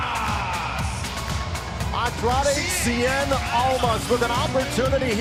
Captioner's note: crowd cheering